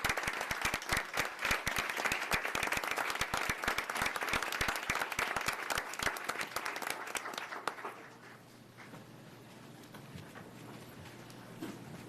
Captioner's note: applause